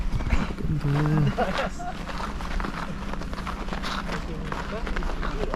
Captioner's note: laughs